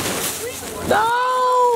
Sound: bag rustles

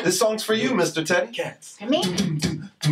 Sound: Mr. Root beatboxing "boots" and "cats"; vocalizing

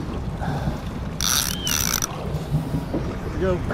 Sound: cranking; heavy breathing; cranking

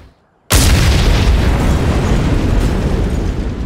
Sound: explosion

